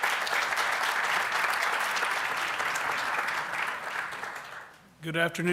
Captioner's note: applause